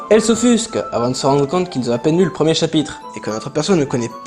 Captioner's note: none